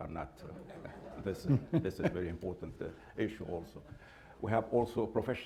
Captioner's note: laughter